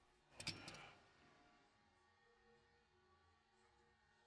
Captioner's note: metal clicks